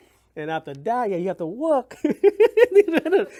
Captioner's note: laughs